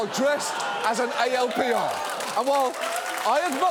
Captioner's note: studio audience laughs, claps